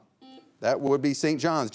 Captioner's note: bell buzzing